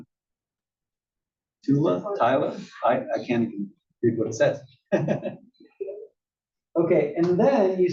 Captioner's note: laugh